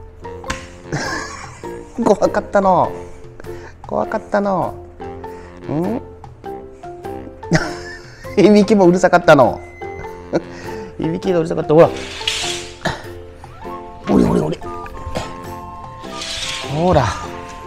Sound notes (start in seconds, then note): 0.9 laughs; 7.5 laughs